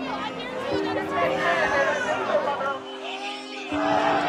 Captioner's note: protesters shouting; somber music